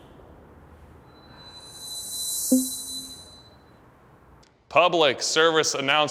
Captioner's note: eerie ringing